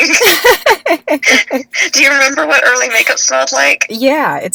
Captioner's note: laughs